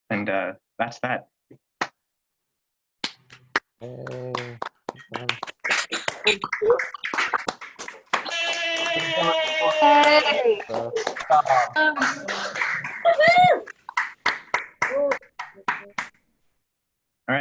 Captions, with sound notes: And that's that. [clapping]